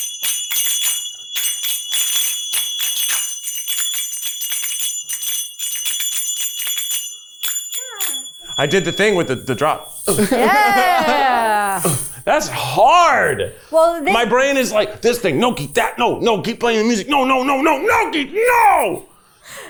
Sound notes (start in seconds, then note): 8.3 chuckling; 10.0 chuckling; 10.3 sighing; 19.6 chuckling